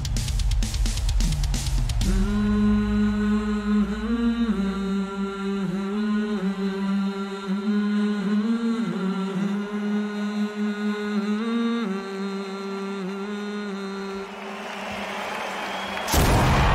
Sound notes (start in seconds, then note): 1.9 more humming intensifies